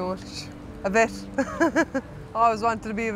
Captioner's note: laughs